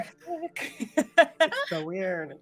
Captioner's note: laughing